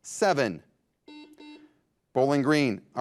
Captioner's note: buzzer buzzes